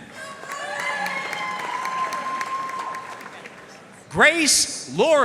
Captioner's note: audience cheering and applauding